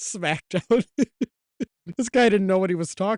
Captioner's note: giggling